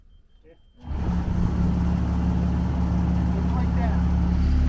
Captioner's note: machine thrumming